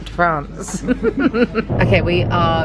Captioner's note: laughs